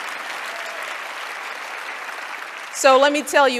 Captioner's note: applause